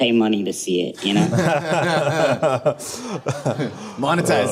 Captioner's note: laughter